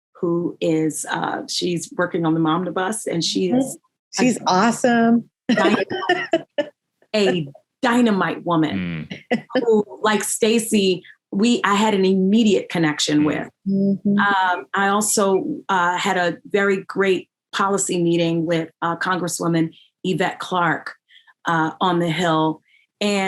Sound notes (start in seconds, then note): 5.6 all laughing